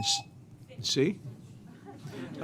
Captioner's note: buzzer